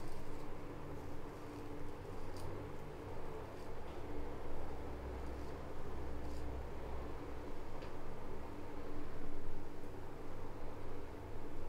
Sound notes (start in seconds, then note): none